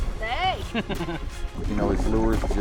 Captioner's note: laughing